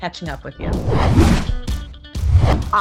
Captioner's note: logo whooshing; lively upbeat music